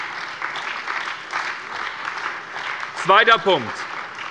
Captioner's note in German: Beifall bei der SPD